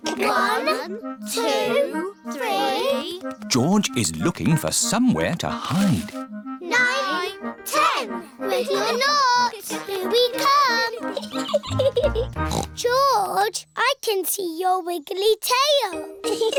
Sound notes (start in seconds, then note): 10.8 giggles; 12.3 snorts